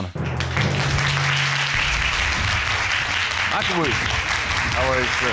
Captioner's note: applause